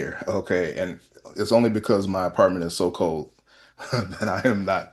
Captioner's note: laughter